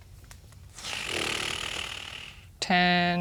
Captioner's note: blows raspberry